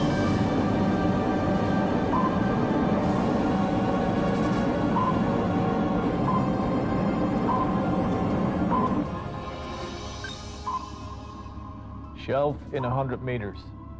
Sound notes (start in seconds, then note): 2.1 sonar pinging